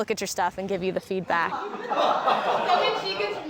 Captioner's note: laughter